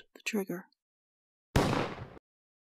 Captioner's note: gun Shot